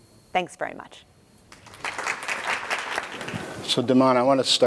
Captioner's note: applause